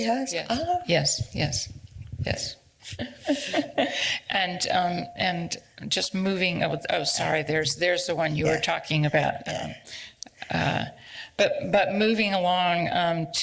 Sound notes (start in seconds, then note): 2.8 laughs